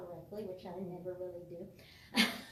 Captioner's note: laughs